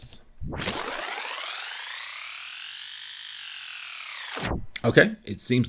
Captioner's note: whirring